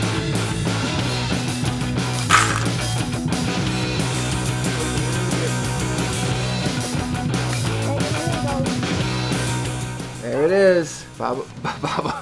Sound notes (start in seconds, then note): 2.3 Legos scattering